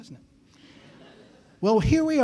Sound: laughter

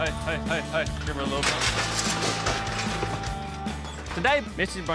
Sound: clanging sound

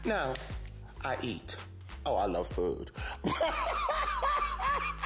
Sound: laughs

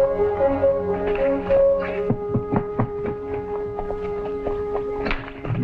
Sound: horses trotting

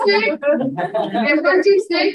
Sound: audience laughing

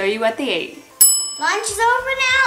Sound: bell resounds

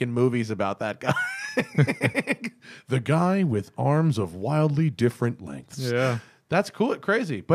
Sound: laughter

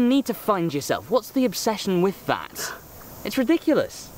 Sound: scoffing

